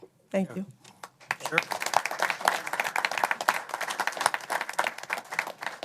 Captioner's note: applause